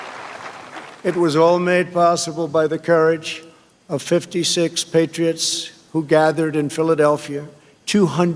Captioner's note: applause